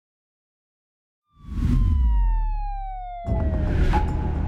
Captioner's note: siren wailing; pensive music